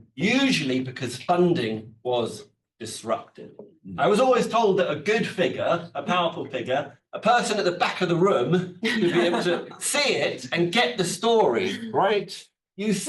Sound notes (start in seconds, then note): 9.0 attendees laughs